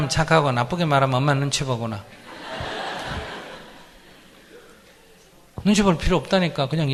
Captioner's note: audience Laughter